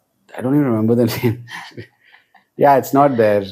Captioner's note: laughs